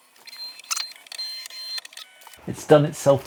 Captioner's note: machine whirs